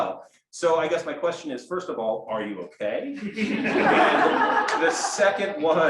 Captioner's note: laughter